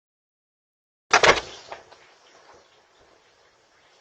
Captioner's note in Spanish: La puerta se abre y se cierra; Charla indistinta